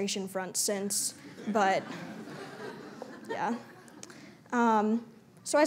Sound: laughter

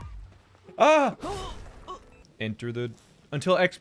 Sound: groaning of death

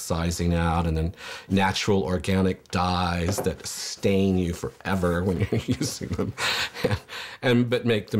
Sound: laughs

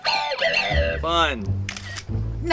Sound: camera flashing

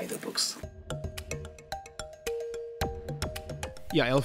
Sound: voiceover

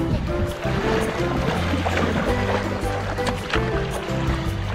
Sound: water splashing

